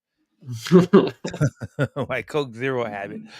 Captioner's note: laughter